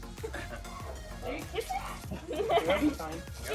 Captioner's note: laughing